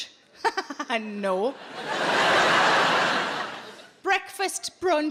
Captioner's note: audience laughing